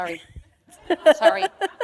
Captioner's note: laughter